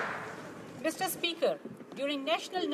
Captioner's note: some Applause